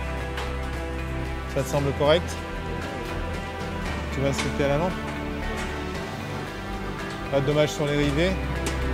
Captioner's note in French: Voix en fond